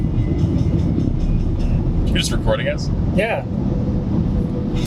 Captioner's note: car engine whirring